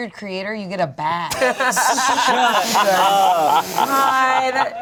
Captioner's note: everyone laughing